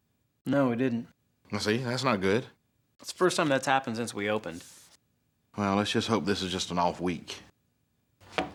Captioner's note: none